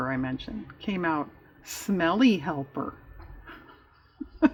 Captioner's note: laughs